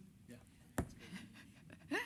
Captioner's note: chuckles